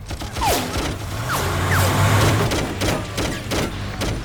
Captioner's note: gunshots popping